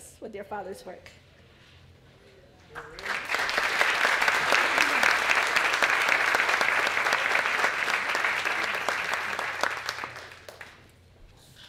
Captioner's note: applause